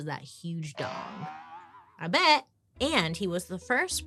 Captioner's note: spring boinging